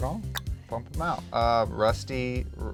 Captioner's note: clicks